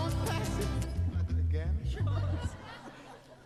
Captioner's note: audience laughs